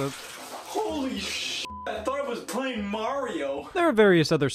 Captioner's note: beep